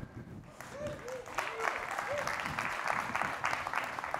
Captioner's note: applause